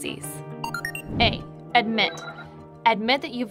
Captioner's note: computer bleeping